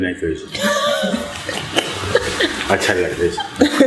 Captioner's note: laughter